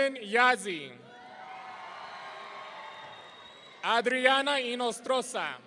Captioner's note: audience cheering